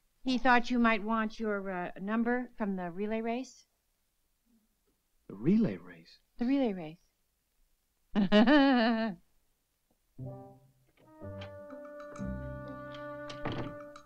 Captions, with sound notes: - He thought you might want your number from the relay race. - The relay race? - The relay race. (chuckles) (whimsical woodwind music)